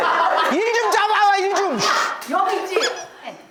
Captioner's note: yelling into the air